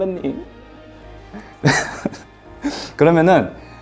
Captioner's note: he giggles just thinking about it